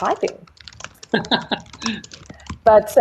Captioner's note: laughs